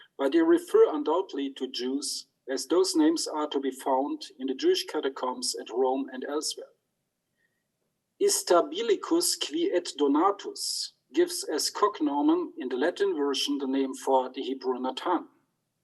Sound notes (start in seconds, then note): 8.5 speaks in foreign language